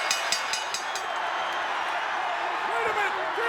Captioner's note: bell dinging; crowd cheering